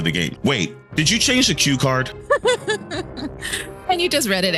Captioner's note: chuckles